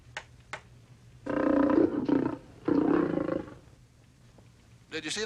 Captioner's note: Spot growls